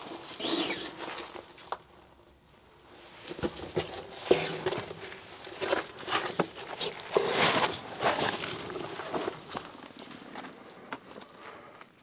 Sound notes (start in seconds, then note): 0.3 sound of backpack brushing against the ceiling; 4.2 sound of backpack brushing against the ceiling